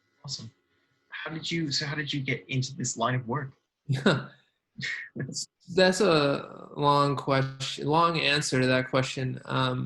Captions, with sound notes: - Awesome, so how did you get in to this line of work? - (laughs) That's a long answer to that question,